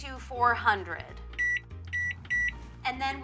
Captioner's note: oven beeping